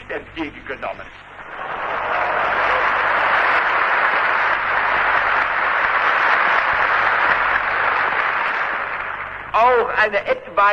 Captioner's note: applause